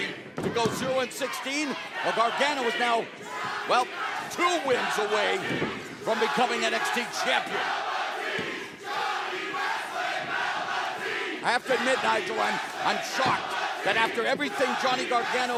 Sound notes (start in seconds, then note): 8.4 fans chanting